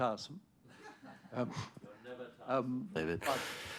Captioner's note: laughter